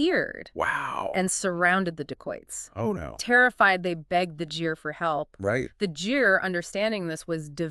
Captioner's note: jeer